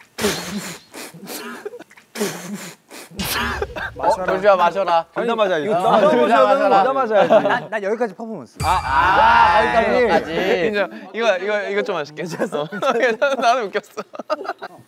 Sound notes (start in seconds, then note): 8.6 loud cheers